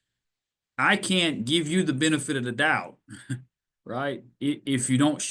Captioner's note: laughs